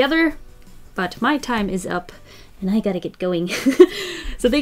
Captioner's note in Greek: Γέλια